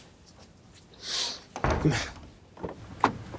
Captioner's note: door closes; Randall sniffs and chuckles